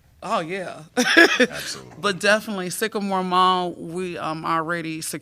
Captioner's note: laughter